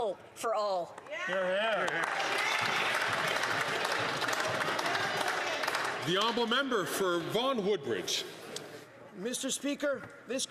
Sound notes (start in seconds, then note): 6.0 some Applause